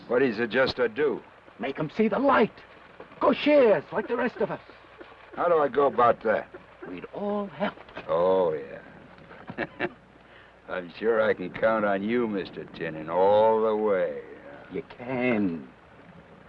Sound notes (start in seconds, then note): 9.1 chuckles